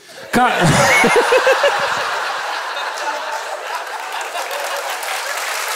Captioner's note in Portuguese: risos